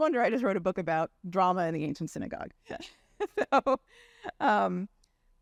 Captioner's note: chuckles